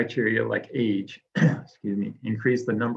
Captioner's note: clears throat